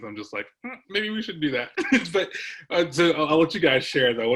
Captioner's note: laughs